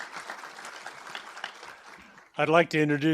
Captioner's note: applause